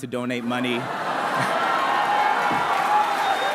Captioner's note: laughter; applause